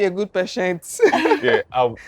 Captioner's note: laughs